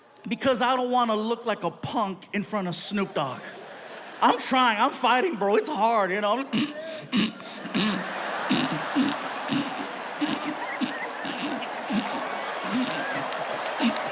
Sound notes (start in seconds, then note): 6.2 audience laughs; 6.4 imitates choking